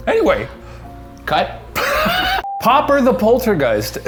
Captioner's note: laughs